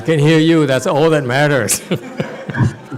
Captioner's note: laughs